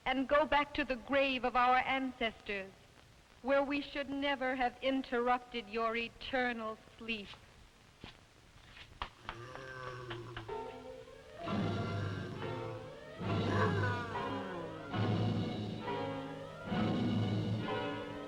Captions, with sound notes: and go back to the grave of our ancestors, where we should never have interrupted your eternal sleep. (Popoca groaning) (dramatic music)